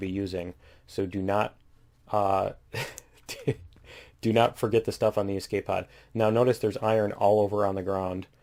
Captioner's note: laughs